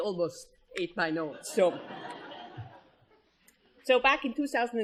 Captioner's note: laughter